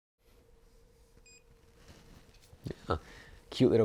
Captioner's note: beeping